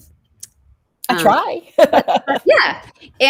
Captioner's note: laughs